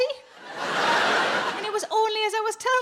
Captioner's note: audience laughing